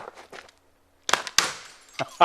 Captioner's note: glass shatter